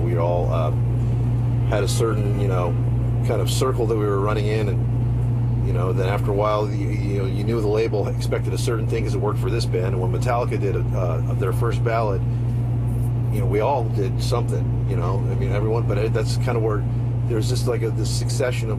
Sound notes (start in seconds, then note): none